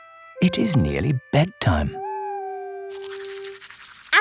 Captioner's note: owl hooting